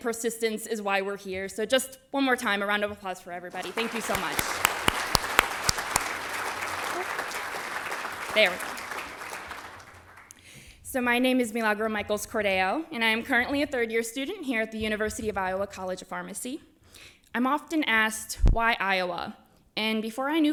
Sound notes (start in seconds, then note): 11.2 applause